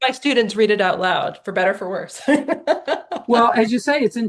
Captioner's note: laughs